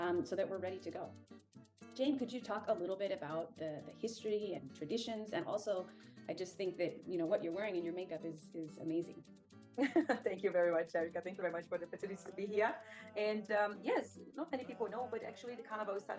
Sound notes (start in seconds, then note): 9.8 laughs